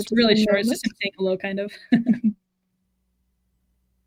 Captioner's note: chuckles